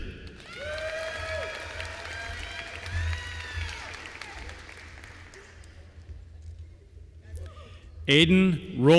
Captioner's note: applause